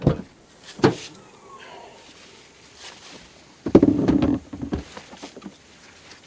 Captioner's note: door opens; rumbling of gear